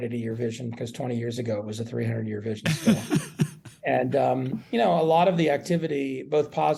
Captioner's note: laughs